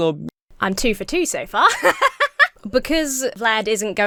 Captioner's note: laughs